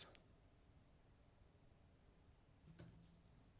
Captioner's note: typing